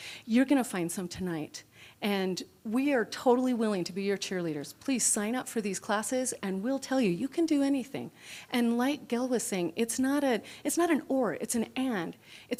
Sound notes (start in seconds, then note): none